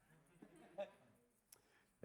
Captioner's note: audience laughing